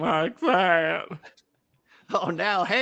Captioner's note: sobbing